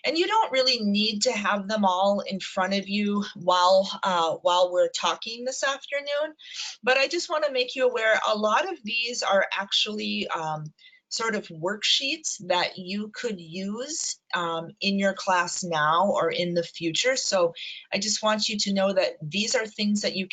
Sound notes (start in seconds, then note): none